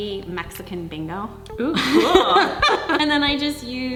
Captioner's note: laughing